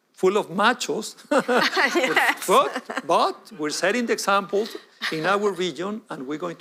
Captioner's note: laughter